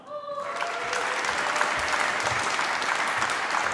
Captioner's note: applause